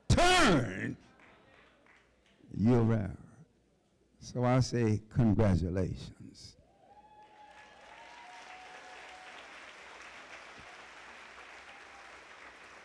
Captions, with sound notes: turn you around. So I say, congratulations. [CHEERING]